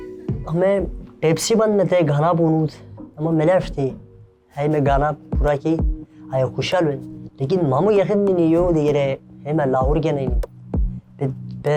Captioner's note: speaking Torwali